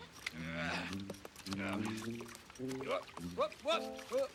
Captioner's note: Edmund grunting